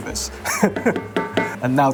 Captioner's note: laughs